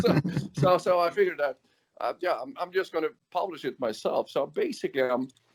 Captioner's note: laughs